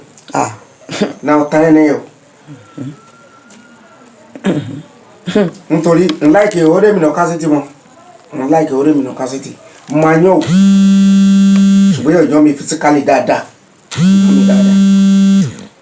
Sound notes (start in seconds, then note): 0.8 laughs; 5.3 laughs; 10.4 phone vibrates; 13.9 vibration continues